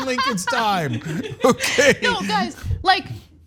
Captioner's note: laugh